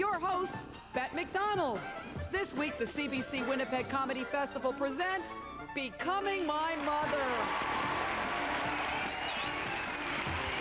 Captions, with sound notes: ■■ WITH YOUR HOST... THIS WEEK, THE CBC WINNIPEG COMEDY FESTIVAL PRESENTS... [loud applause]